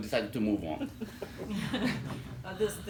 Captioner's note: laughter